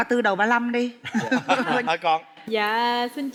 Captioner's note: laughing